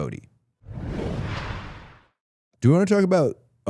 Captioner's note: rushing sound plays